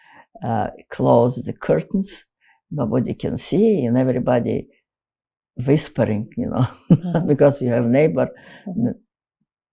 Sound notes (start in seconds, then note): 6.2 laughing